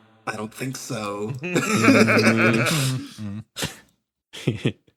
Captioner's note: laughs